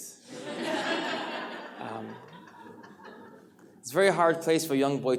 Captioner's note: audience laughs